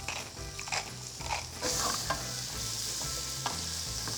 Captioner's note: sizzling